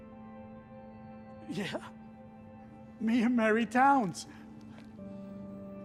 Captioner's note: laughs